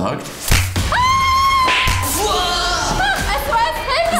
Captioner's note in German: Schreie